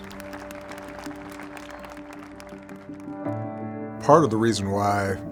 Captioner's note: audience applauding